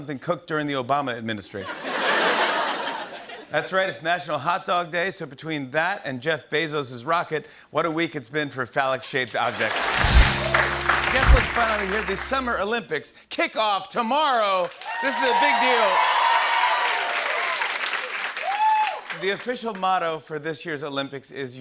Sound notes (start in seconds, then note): 14.6 cheers and applause